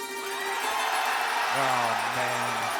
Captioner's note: crowd cheering